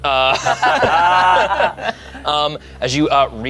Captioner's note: group laughs